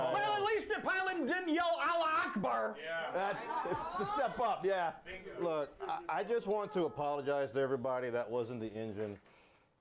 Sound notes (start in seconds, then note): 1.0 bell Rings